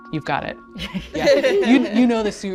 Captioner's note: group laughs